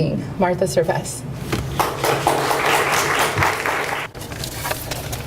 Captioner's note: audience applauds